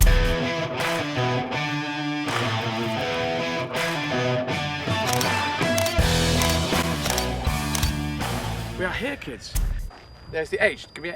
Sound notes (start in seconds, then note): 0.1 upbeat music; 6.3 clicks